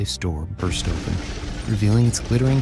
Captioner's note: safe explodes